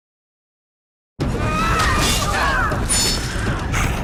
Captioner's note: grunting